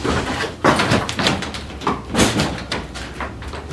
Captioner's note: wood crackling